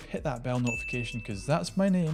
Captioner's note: bell dings